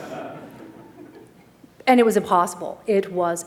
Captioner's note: laughter